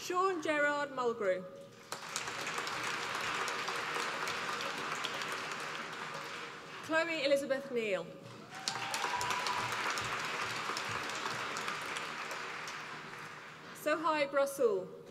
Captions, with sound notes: Sean Gerard Mulgrew, (APPLAUSE) Chloe Elizabeth Neil, (APPLAUSE) Sohaib Rasul,